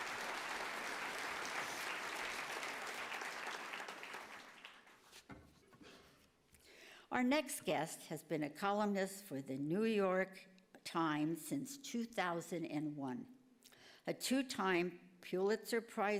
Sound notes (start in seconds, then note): 3.3 applause